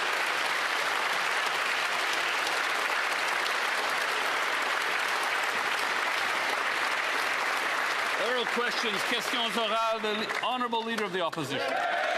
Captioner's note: applause